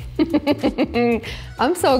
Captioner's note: laughs